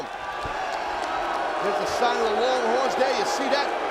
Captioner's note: crowd booing